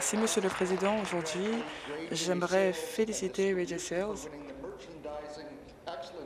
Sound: applause

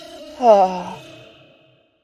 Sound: lower pitched Sonic.EXE laugh

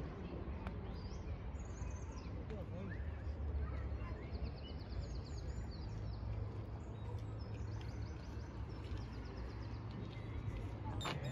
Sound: sound of birdsong and chatting in the background

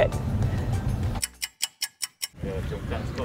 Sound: stopwatch ticking

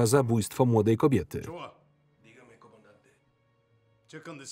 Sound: speaking in Spanish

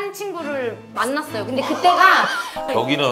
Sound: pffft

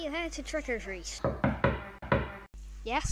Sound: knocking on Door

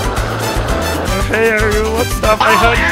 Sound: Fishy Boopkins gibberish

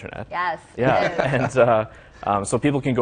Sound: laughter

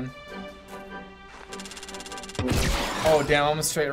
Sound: gun cranking and firing

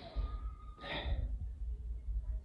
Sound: sigh

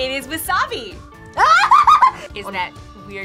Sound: laughs

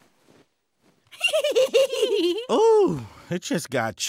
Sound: laughing

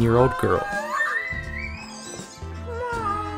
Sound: screams in excitement

